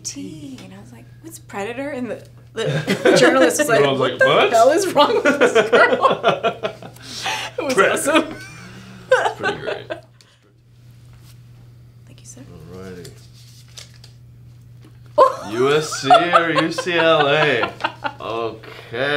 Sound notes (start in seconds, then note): 5.0 laughing; 17.6 Jeanine laughs